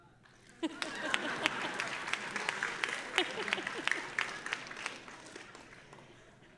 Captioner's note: audience applauding; audience laughing